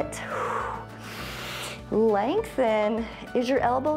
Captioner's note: exhales and inhales